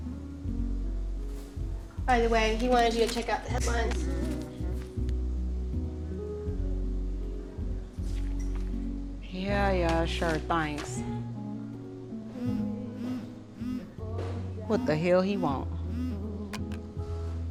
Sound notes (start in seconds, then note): 12.3 phone buzzing